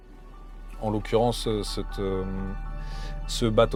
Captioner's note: in french